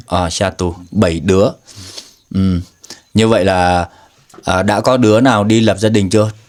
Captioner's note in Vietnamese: khịt mũi